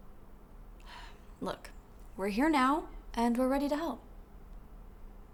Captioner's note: sighs